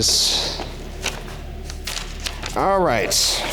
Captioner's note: paper rustling